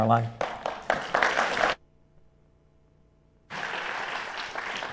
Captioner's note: audience applauding